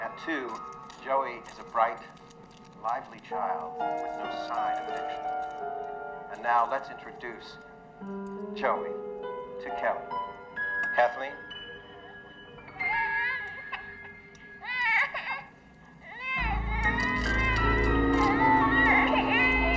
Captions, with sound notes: At two, Joey is a bright, lively child with no sign of addiction. And now, let's introduce Joey to Kelly. Kathleen? (Joey crying) (dramatic music)